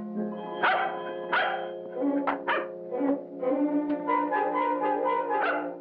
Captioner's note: dog barking; dog barking